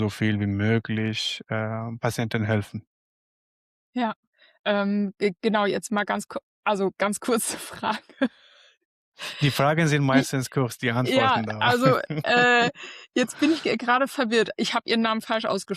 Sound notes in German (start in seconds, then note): 9.4 gelächter